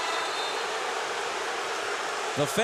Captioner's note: crowd booing